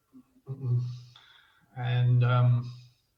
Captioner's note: clears throat